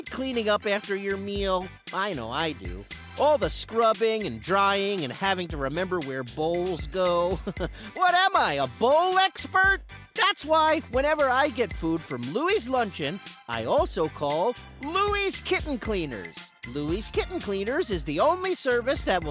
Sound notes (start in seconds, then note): 7.2 chuckles